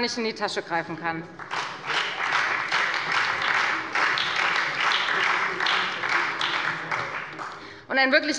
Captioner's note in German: Beifall bei der FDP und der SPD